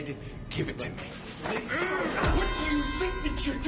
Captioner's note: grunting